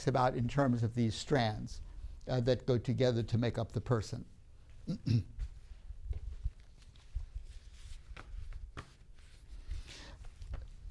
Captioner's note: clears throat